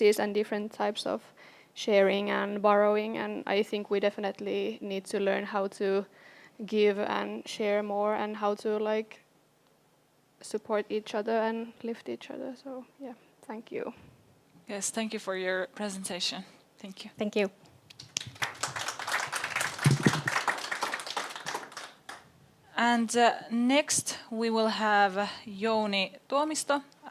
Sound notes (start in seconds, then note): 17.9 audience applauds